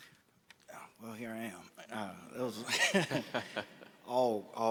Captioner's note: laughs